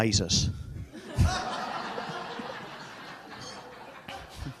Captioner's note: audience laughs